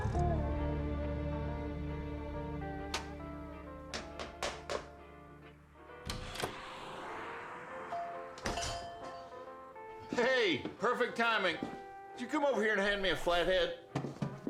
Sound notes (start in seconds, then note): 3.8 hammering; 6.0 door opens; 7.9 door bell